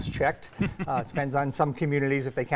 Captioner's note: laughing